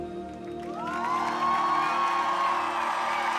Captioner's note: cheers and applause